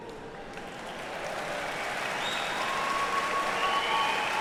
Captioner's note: audience applauding